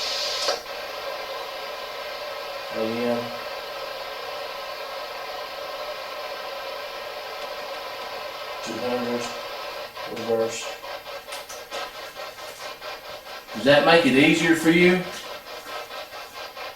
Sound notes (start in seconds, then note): 0.2 white noise buzzes; 6.6 white noise buzzes; 11.5 white noise buzzes